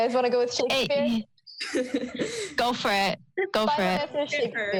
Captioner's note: laughing